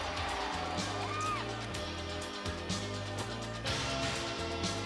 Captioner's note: crowd cheering